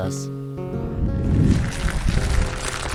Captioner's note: rocks rumbling